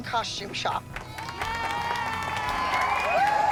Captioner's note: applause